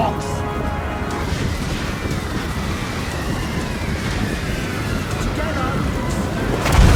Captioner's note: rumbling sound of charging army; ka-bloosh